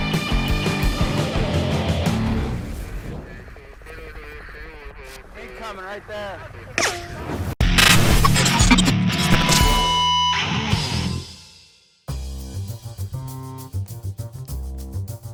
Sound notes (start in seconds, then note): 3.2 radio chattering; 6.8 bullet wheezing; 9.1 upbeat music; 12.5 upbeat music